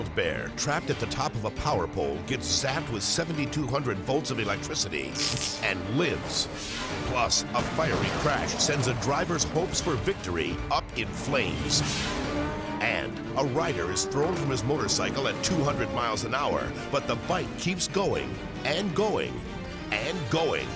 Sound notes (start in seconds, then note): 5.2 electricity zaps; 11.3 air whooshes